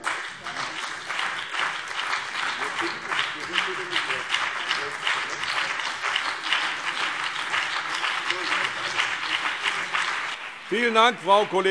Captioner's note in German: Beifall BÜNDNIS 90/DIE GRÜNEN und vereinzelt CDU